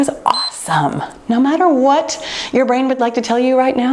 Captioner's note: timer beeps